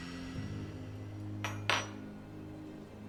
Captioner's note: badge clanking; gentle orchestral music